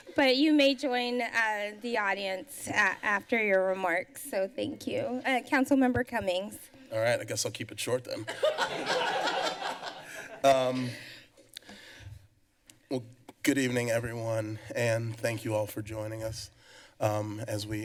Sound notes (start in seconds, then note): 11.4 laughter